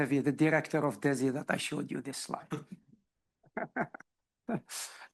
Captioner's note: laughs